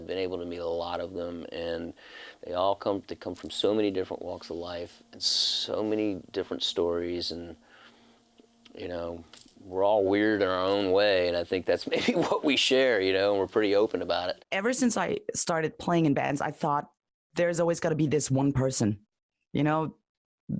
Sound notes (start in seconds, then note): 11.9 risos